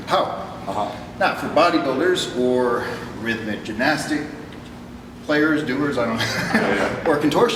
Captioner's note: chuckles